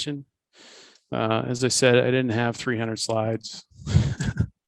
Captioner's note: laughs